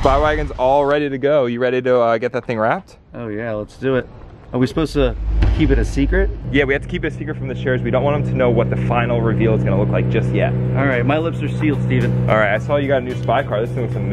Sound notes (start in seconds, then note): 4.6 shocking sound; 12.2 background music playing